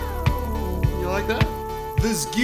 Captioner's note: nondescript whirring noise